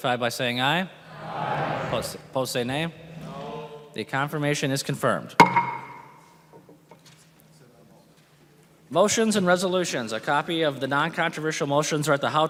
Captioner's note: gavel